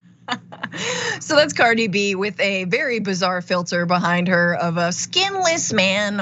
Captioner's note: laugh